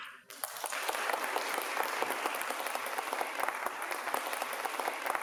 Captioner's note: applause